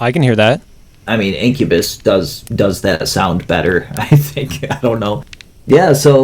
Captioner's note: laughs